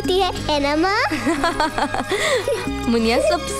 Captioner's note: Laughs